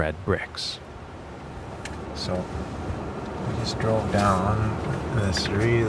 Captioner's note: car driving on gravel